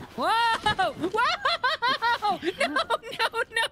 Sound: laughing

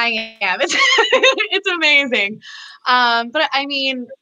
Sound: laughs

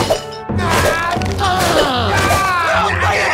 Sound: both grunting

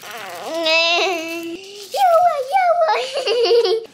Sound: laughs

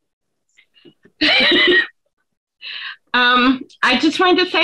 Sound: laughs

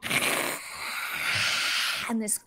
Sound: Deborah hissing

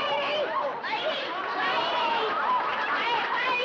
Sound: laughter

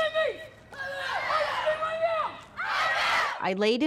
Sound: chanting

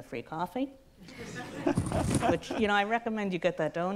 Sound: audience laughs

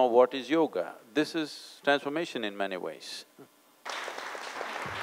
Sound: applause

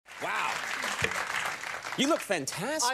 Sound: audience applauds

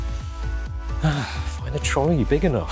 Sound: sigh

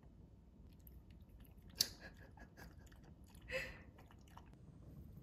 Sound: slurp slurping down water

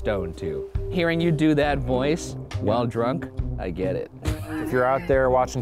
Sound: laughs

